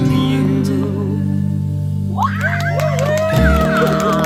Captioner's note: claps and cheers